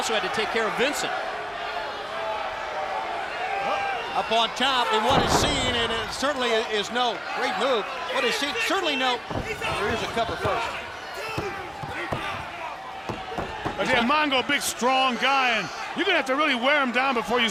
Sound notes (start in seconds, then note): 3.2 crowd cheering; 12.0 crowd chatter